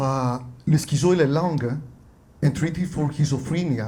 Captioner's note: speaks Portuguese